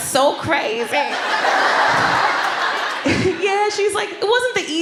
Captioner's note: laughter